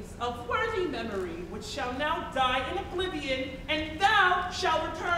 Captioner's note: none